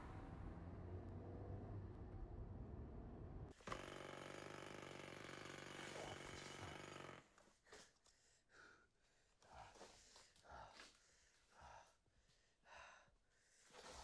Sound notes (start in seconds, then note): 5.7 jackhammer buzzes